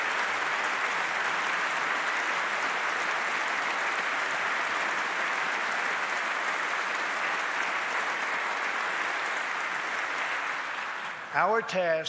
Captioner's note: applause